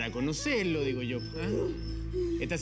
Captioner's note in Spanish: gemidos de ella